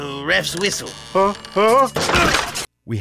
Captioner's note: creaking; crash